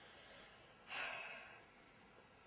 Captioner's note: sigh